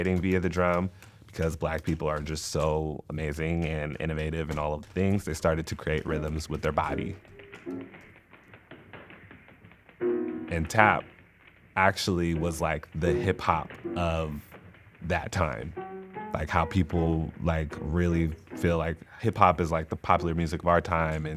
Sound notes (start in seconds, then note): 5.9 light music; 7.3 shoes tapping